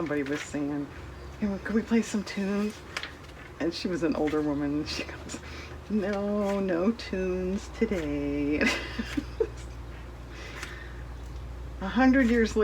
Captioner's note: laughs